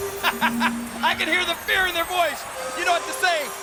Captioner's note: chuckles